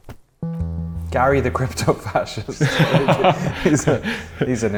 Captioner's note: laughter